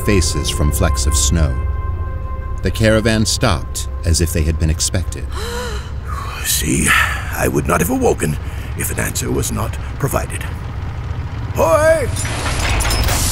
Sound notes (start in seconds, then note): 10.5 yelling